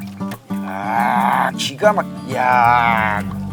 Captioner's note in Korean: 감탄